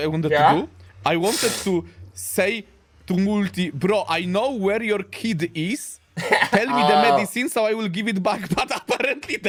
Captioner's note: laughter